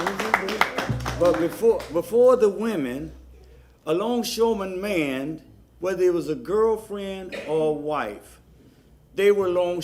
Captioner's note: applause